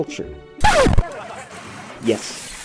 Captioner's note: record scratch; windows breaking